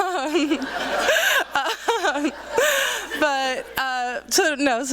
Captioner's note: laughter